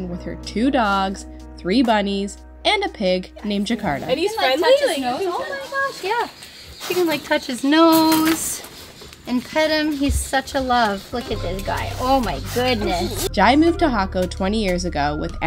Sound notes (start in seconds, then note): 4.8 chattering